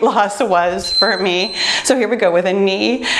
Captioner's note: beeping